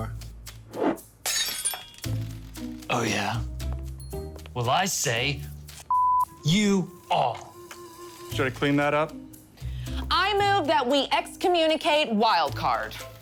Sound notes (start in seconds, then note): 0.1 trinket whooshes and crashes; 5.9 beep